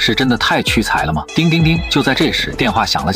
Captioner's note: ring ring ring